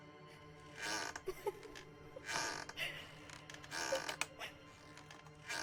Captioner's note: woman Crying